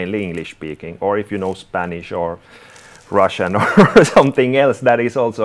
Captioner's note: chuckles